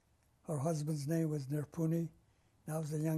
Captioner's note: armenian